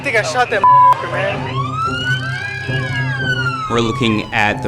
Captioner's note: sirens wailing